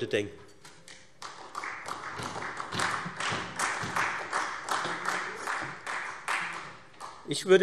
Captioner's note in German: Allgemeiner Beifall